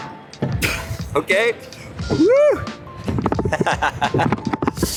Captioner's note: laughs